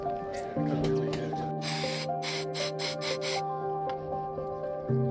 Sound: air hissing

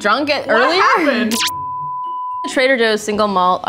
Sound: beeping

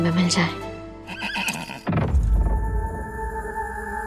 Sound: horse neighing

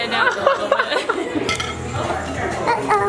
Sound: laughing

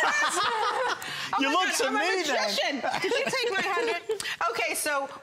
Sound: laughter

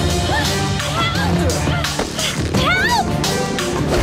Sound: groaning

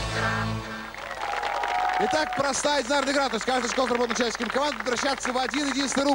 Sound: applause

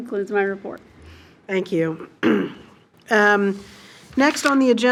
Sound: clears throat

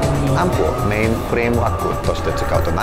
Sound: non-english speech

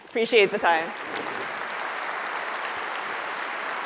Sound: applause

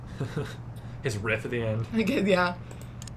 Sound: laughs

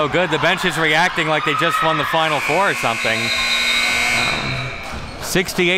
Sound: buzzer

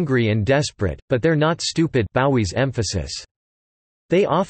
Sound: Gbowee's emphasis

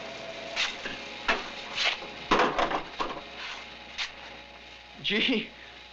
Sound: metal clattering

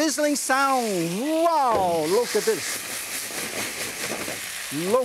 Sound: pan sizzles

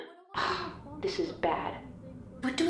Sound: sighs

